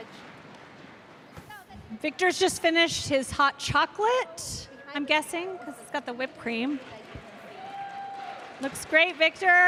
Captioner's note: cheers and applause